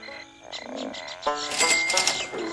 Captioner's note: $$ money sound effects $$